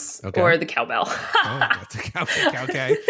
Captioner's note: laughs